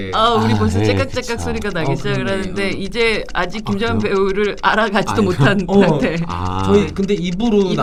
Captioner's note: alarm